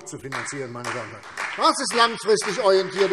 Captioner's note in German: Beifall CDU und BÜNDNIS 90/DIE GRÜNEN